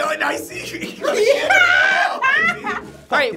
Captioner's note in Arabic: يضحك